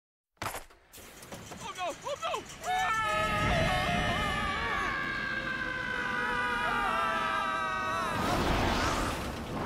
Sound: screaming

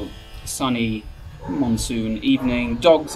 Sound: dogs barking

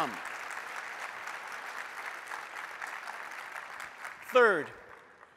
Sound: applause

